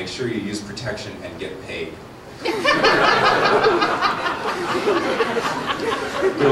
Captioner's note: laughter